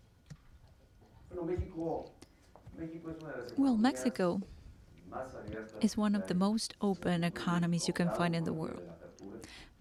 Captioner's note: through translator